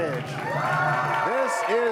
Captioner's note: cheers and applause